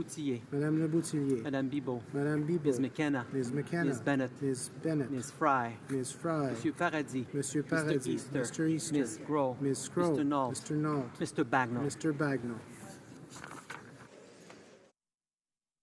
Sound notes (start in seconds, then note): 1.9 calling of recorded vote